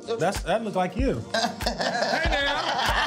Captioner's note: laughing